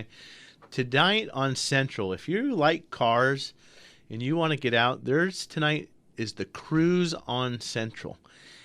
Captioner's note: none